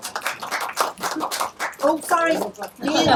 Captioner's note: audience applauding